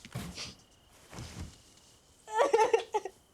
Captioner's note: sobbing